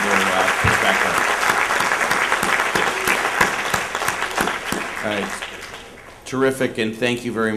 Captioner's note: applause